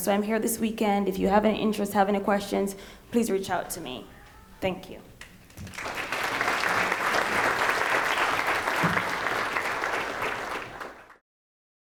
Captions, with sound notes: so I'm here this weekend, if you have any interest, have any questions, please reach out to me, thank you. (applause)